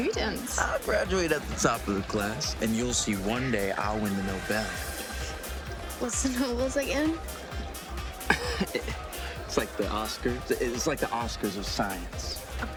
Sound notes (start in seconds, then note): 4.9 upbeat music; 7.4 Alex laughing